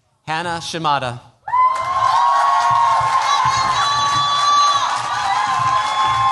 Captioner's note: cheers, applause